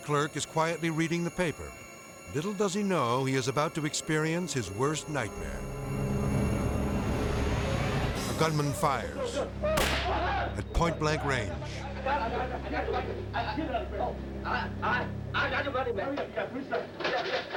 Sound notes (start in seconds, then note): 9.7 gun firing; 10.0 clerk screams